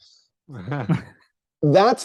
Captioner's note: chuckle